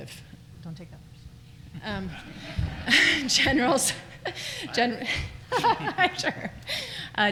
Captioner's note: laughter